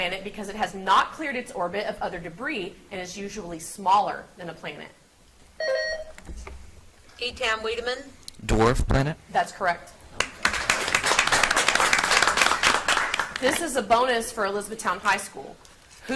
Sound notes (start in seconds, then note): 5.6 buzzer beeps; 10.2 audience applauds